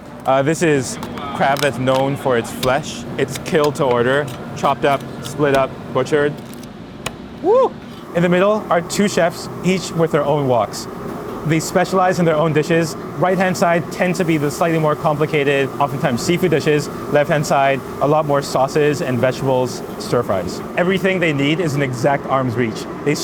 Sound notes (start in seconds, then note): 6.7 knife chops